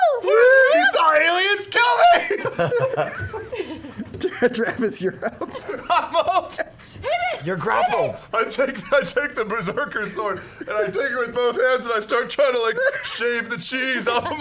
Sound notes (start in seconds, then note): 2.9 laughing